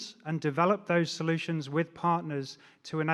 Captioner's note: none